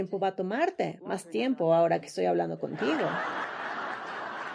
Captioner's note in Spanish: risas